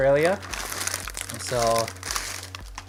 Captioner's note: Tim Tam package crinkles